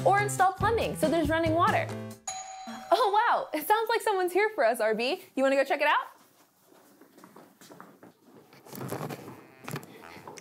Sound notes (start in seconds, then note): 2.2 bell Dings; 9.5 foot steps